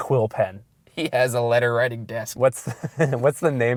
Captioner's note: voiceover